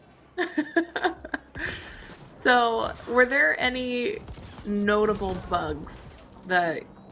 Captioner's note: laughs